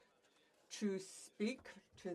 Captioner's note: speaking French